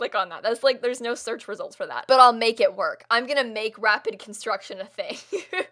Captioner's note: laugh